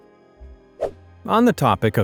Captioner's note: swoosh